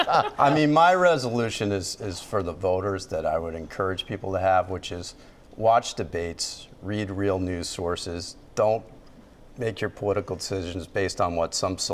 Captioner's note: laughter